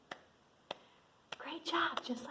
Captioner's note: claps